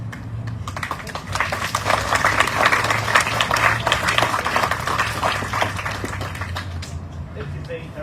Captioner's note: audience cheering, applauding